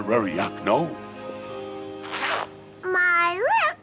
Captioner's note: zipper zips